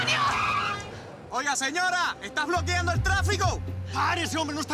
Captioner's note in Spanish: Chillido de neumáticos